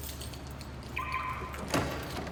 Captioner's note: alarm chirps